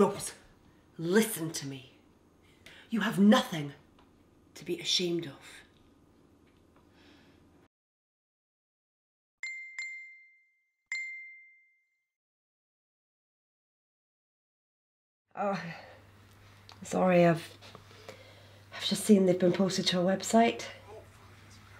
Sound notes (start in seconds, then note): 8.2 ping